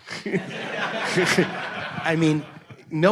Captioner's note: audience laughs